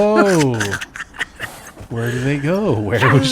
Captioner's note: evil Laughter